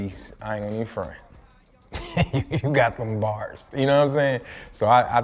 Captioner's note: laughs